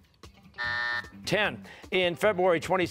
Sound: buzzer

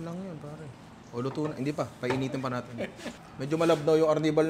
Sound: chuckles

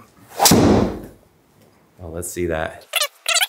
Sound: ball smashes

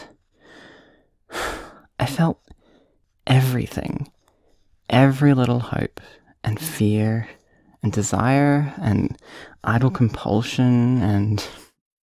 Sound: sigh

